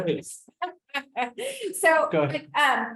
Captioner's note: laughs